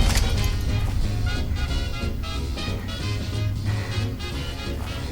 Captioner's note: explosions echo throughout the cavern